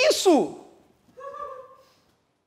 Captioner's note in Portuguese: risadas